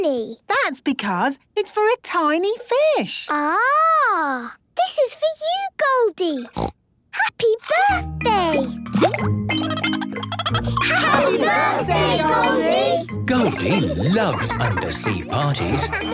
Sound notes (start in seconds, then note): 6.5 snorting; 9.5 Goldie giggling